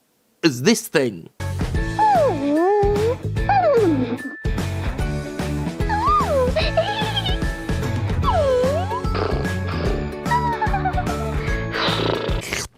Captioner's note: giggling noises, followed by slurping